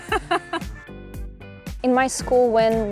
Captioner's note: laughter